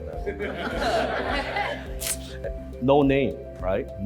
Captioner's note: crowd laughs